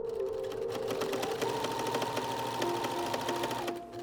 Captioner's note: sewing machine whirring